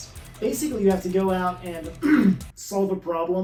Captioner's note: cough